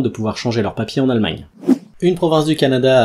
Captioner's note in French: Son de transition